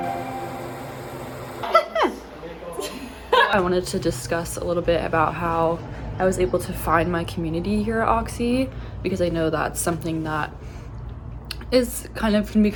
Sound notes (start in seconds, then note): 1.6 laughing; 1.7 friends chattering